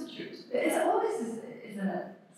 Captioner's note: french